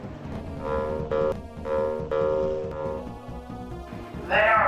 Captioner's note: more laser noises